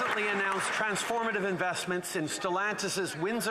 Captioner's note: some Applause